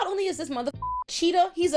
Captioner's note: beep